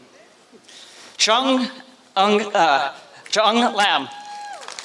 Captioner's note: applause